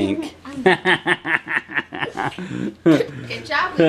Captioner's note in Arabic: يضحك